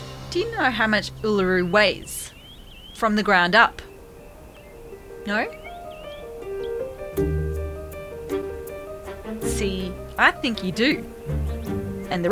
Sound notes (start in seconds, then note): none